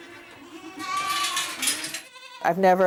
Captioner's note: goats bleating